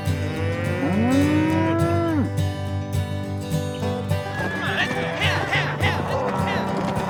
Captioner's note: cows mooing; cowboys yell